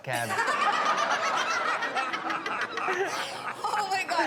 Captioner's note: all laugh